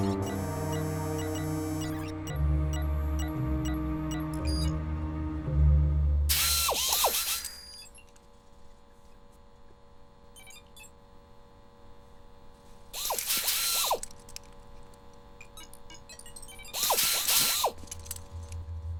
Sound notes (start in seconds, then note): 6.2 whirring; 12.9 whirring; 16.6 whirring